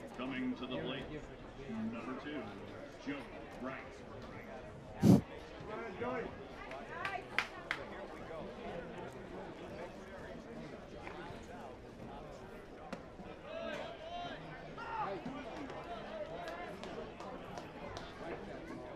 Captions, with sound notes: Coming to the plate, number 2, Joey Wright. Come on, Joey. Here we go. [CHATTER]